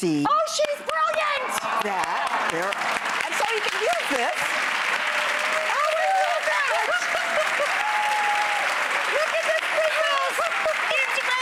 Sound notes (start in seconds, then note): 1.4 applause and cheering; 4.6 applause and cheering; 7.1 applause and laughing